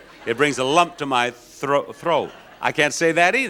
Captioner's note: audience laughing